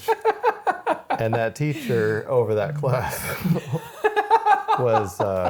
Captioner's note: both laughing